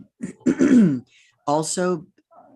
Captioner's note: clears throat